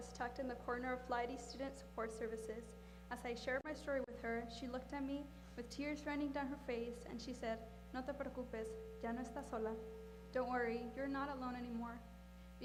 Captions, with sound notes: tucked in the corner of Student Support Services. As I shared my story with her, she looked at me with tears running down her face and she said-- [speaking spanish] --don't worry, you're not alone anymore.